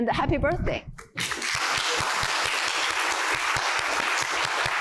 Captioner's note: applause